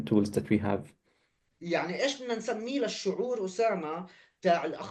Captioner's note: speaking arabic